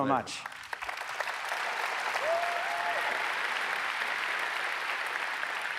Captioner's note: audience applauds